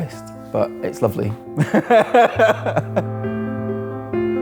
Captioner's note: laughs